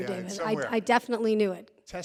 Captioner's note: audience laughing